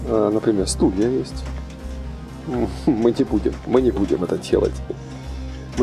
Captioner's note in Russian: смешок